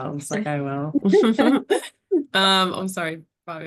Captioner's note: laughs